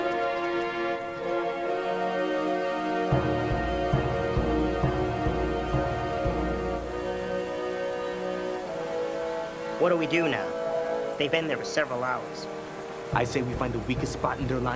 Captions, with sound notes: (water running) - What do we do now? They've been there for several hours. - I say we find the weakest spot